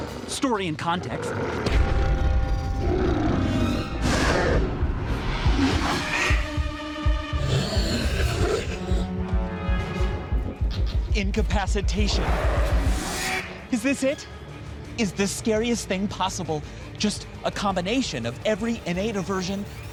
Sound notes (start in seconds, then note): 2.2 growling; 7.3 growls